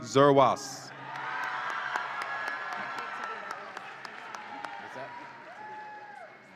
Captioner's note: audience applauds and cheers